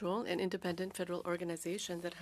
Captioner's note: speaking French